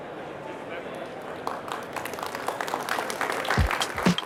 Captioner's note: applause